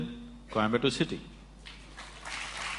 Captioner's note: applause